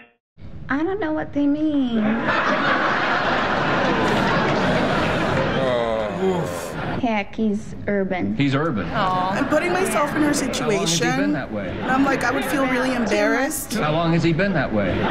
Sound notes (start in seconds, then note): 2.0 audience laughing